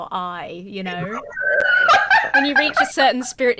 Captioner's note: laughs